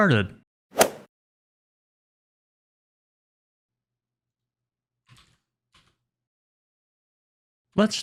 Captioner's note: golf ball hit sound effect